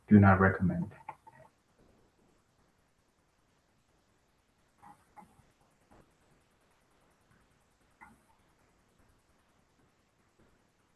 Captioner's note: pause